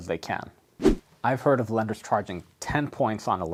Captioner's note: air whooshes